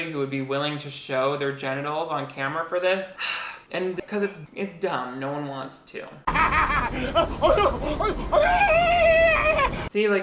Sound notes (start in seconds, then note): 3.1 sighs; 6.2 homeless man laughing